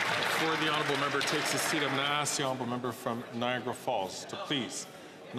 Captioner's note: some Applause